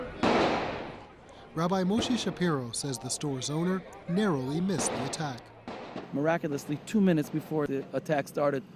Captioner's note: gunshots